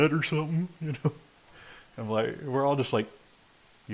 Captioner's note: chuckles